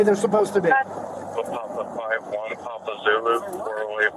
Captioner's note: radio chatter